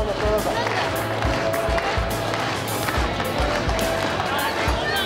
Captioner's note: clapping